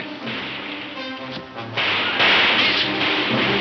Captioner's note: guns firing